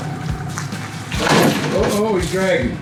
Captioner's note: trailer banging